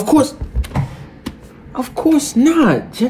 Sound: door opening

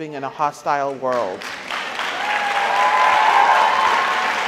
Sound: audience applauds

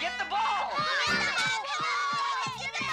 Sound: all shouting

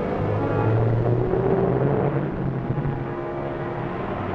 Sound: engine revving

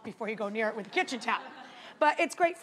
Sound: audience members laughing

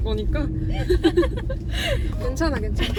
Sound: laughs

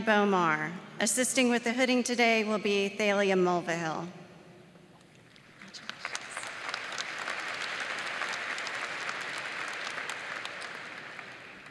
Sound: applause

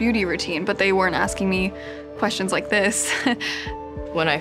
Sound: laughs

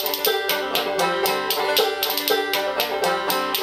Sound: banjo strumming; spoons clacking

